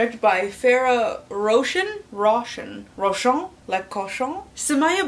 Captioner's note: said like Russian